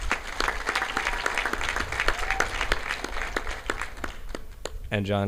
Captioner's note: audience applauding